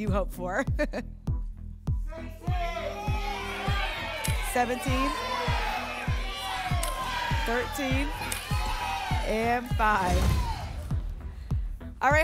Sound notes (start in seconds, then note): 2.0 audience shouting numbers; 5.9 audience shouting numbers; 10.1 whoosh; 10.2 thump